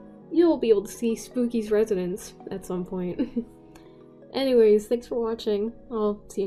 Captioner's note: chuckle